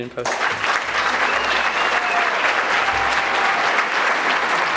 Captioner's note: audience clapping